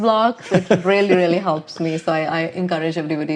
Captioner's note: laughing